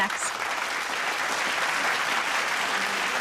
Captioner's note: applause